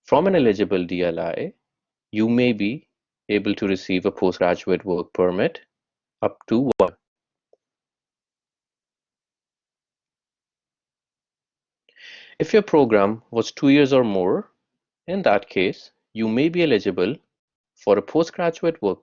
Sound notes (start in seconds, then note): 9.1 audio cuts out